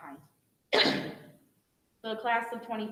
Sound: clears throat

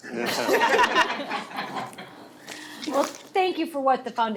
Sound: laughing

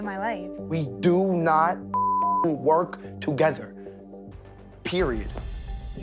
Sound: beep

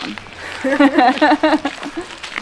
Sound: laughter

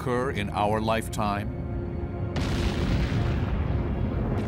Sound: explosion

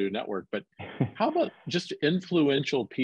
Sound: chuckles

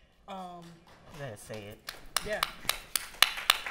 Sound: applause

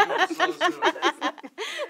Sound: laughter

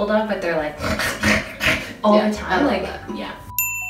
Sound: snorts

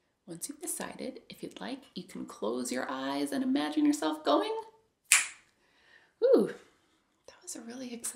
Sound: snaps

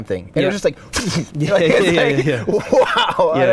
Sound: explosion imitation

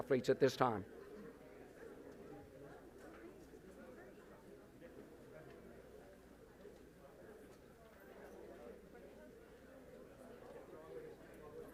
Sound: group chatter

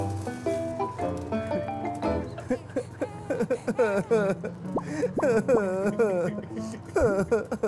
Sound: crying

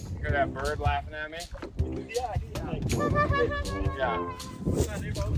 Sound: group laughing

